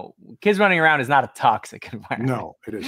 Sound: laughs

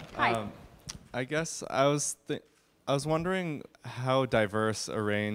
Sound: voiceover

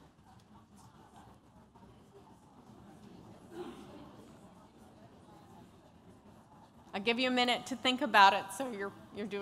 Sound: chatter

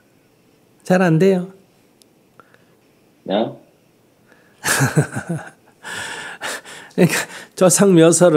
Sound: laughter

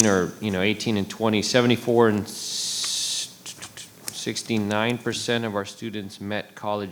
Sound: hisses

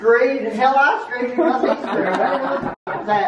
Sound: laughs

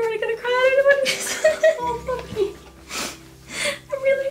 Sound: emotional mumbling

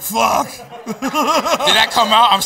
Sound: laughs

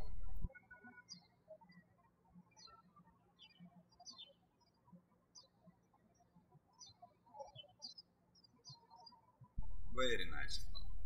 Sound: birds chirping

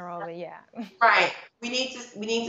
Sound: laughing

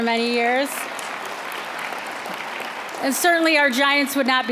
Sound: applause

